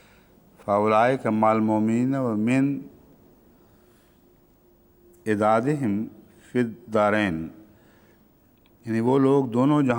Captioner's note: Arabic